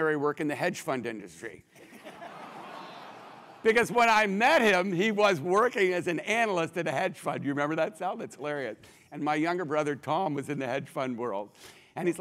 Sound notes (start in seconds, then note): 2.0 laugh